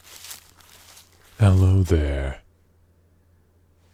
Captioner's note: walking